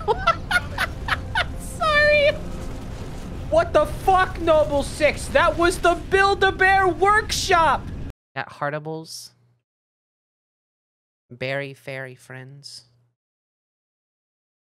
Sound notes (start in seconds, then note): 0.0 laughing; 3.7 dude voice